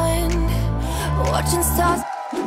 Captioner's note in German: Jubel